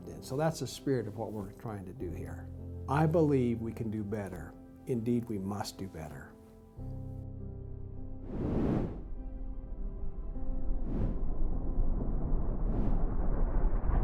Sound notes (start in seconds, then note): 6.9 gentle music continues; 8.2 air whooshes